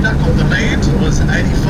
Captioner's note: plane engine roaring